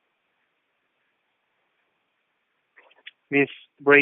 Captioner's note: silence